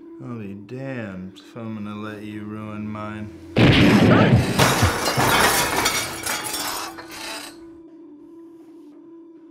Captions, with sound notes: I'll be damned if I'm gonna let you ruin mine. (gunfire) (crashing)